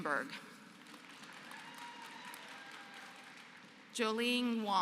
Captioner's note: applause